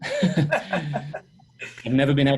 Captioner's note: laughing